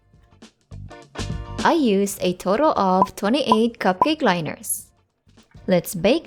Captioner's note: cork blops